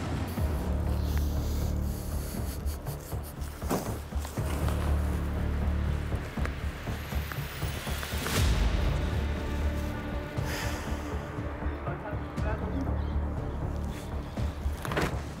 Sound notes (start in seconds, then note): 0.1 light dramatic music; 2.2 man chuckles; 8.0 dramatic music; 10.0 man sighs